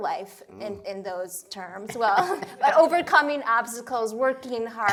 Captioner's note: laughter